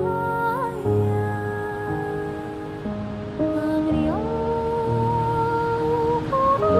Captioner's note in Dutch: Geluid van de branding